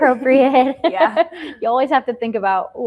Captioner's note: laughs